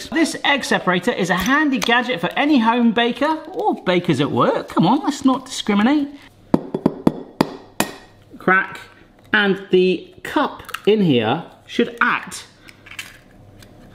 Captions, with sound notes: "This egg separator is a handy gadget for any home baker", or baker's at work. Come on, let's not discriminate. (egg thudding) (egg shell cracks) Crack. And the cup in here should act...